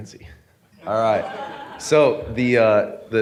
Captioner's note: audience laughing